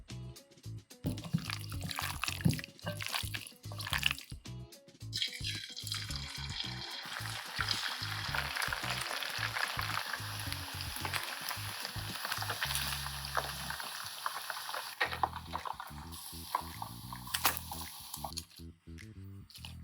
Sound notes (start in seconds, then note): 10.6 frying sound ASMR